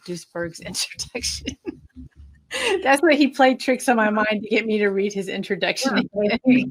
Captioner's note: laughing